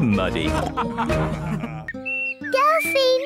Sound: all laughing

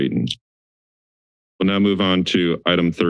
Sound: silence

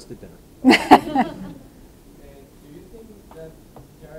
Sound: audience laughing

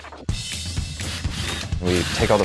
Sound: drill whirring

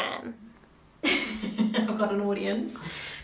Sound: laughs

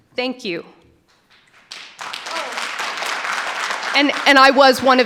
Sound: audience applauding

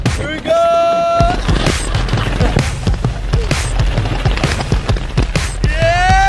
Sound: balls rattling

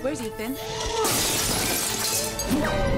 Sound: shattering

